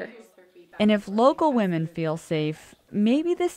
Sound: voiceover

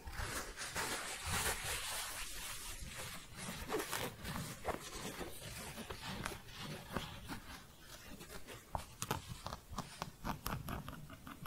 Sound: shuffling and scratching

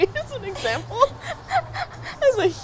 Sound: both giggle

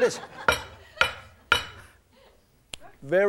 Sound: banging

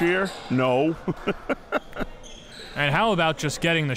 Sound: laughs

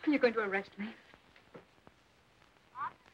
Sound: on phone

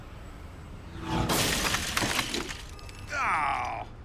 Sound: crash

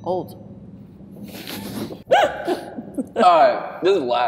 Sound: laughter

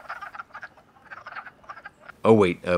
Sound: quacking

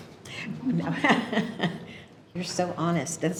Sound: laughs

